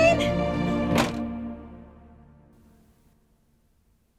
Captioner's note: door slams